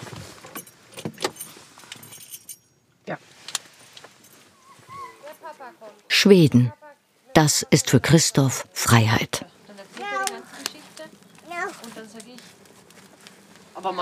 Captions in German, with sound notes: (Klimpern) Ja. Schweden. Das ist für Christoph Freiheit. (Stimmengewirr)